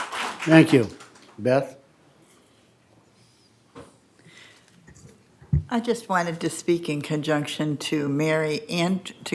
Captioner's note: applause